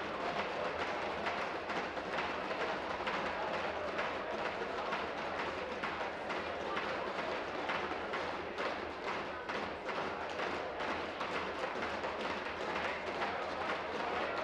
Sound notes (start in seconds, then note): 1.4 tapping on desks